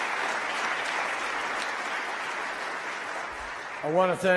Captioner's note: applause